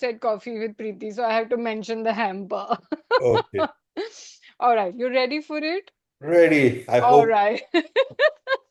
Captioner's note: laughter; gasps